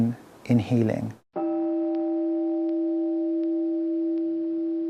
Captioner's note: meditation chime